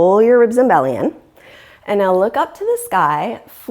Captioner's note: deep breathing sounds